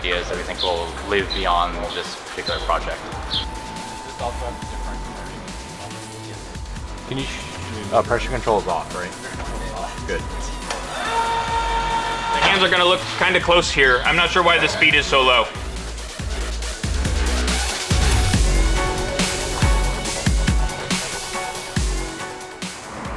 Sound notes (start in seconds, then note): 2.9 music and background discussion; 11.0 sound of robot being lifted